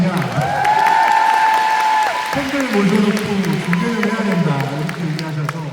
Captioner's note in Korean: 환호